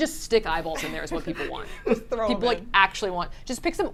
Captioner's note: laughs